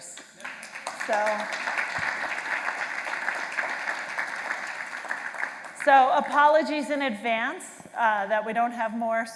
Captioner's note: applause